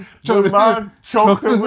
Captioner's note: laughing